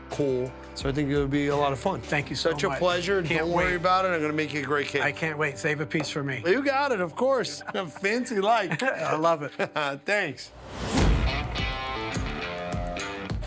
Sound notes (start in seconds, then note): 7.5 laughs; 10.9 upbeat rock music